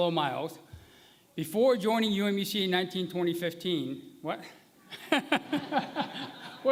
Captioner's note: laughter